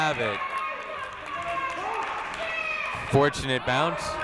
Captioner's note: people shouting in the crowd